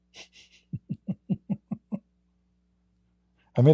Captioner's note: Ketawa